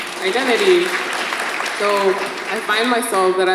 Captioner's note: audience applauds